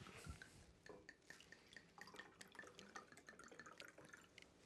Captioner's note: wine sloshing